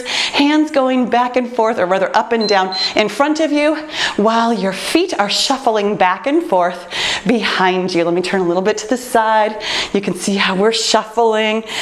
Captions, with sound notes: hands going back and forth, or whether up and [timer beeps] down in front of you while your feet are shuffling back and forth behind you. Let me turn a little bit to the side. You can see how we’re shuffling.